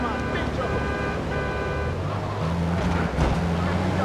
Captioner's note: sirens wailing; sirens wailing